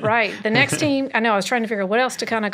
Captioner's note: laughs